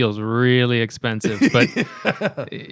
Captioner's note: laughter